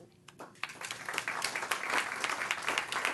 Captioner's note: applause